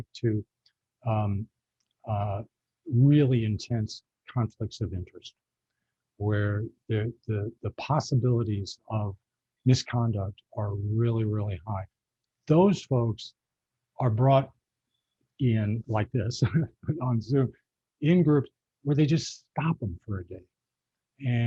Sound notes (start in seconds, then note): 15.9 chuckling